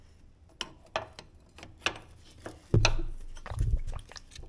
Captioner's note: parts clanking